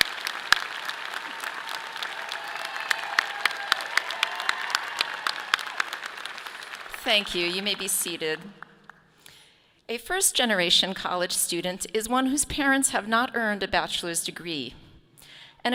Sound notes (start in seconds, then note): 3.1 audience applauding; 3.1 clapping